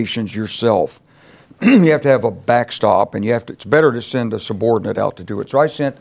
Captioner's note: cough